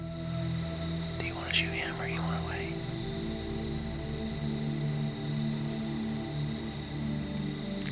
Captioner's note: whispering